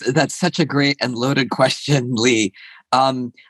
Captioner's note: laughs